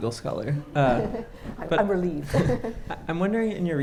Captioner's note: chuckles